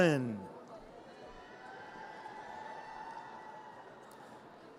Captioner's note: audience cheers